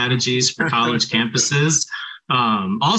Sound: laughs

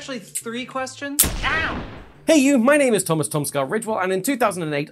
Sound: bang

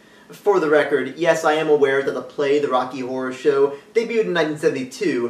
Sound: none

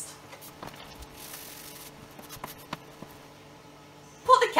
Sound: digital fast forwarding noise

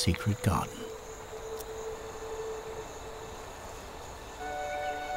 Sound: nature sounds; peaceful music

